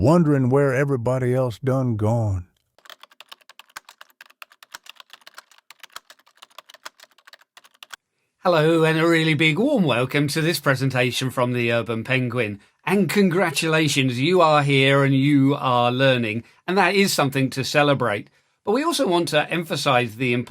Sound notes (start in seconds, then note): 2.6 typing